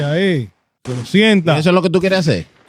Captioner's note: speaking In Foreign Language